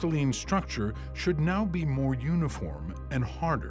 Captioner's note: none